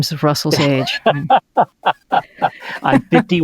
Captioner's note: laughs